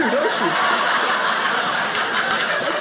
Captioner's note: audience laughing